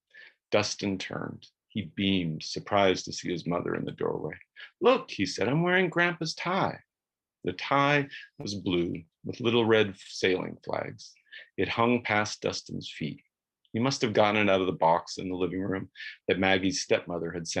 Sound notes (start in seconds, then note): none